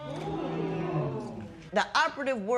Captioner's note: spectators murmur